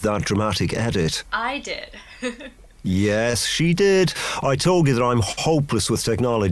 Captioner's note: laughs